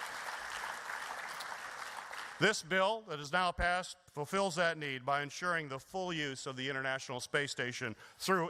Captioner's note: applause